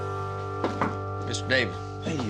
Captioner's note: knocks on door